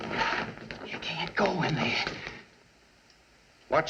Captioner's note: whispering